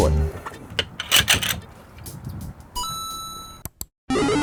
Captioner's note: metal clanking